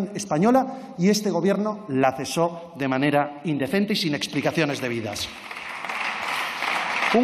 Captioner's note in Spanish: Aplausos